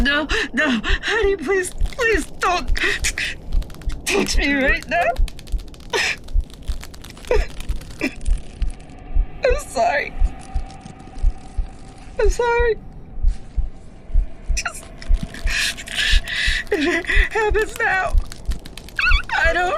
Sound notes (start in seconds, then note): 7.3 crying